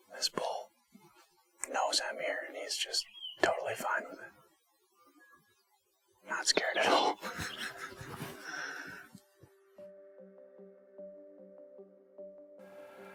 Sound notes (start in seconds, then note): 7.1 laughing; 10.2 gentle music